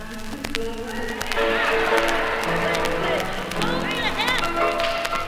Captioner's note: audience cheers